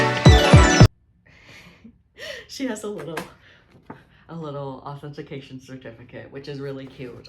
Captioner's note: laughs